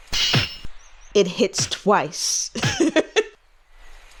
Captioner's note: laughs